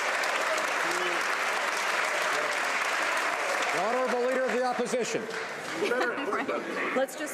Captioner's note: some Applause